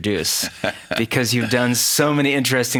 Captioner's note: laughing